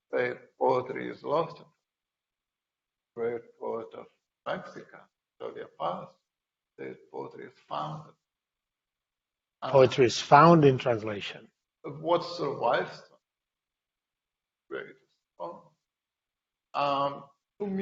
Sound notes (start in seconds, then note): 5.6 speaker distorts; 14.7 speaking quietly